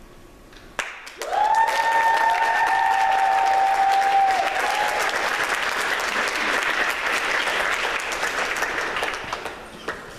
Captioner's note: applause